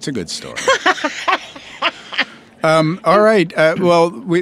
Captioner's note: laughs